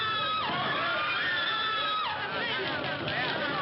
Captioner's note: people screaming